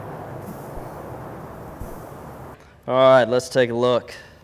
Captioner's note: peaches sizzle